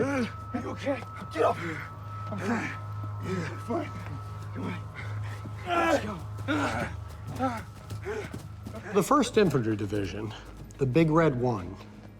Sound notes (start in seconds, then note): 6.6 pained shouting